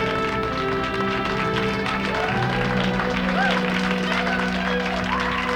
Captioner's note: crowd applauds